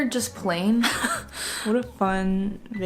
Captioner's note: laughs